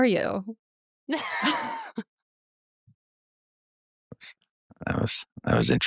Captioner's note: laughter